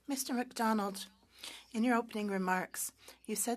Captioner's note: speaking French